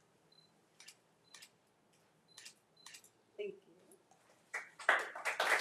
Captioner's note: camera shuttering; audience applauding